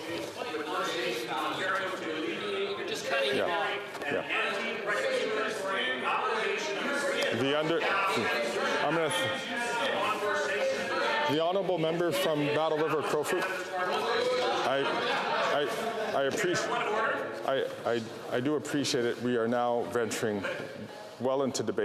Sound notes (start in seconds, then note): 4.2 voice fades out